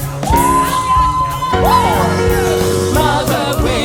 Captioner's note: cheering